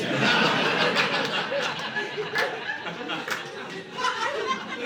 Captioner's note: audience laughing